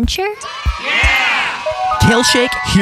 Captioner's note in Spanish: La audiencia vitorea